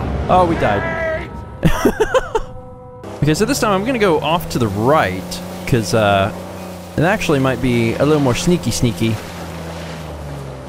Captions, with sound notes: Oh, we died. [laughs] Okay, so this time I'm gonna go off to the right... ...'cause, uh... ...it actually might be a little more "sneaky-sneaky".